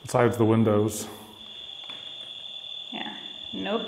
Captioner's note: crickets chirping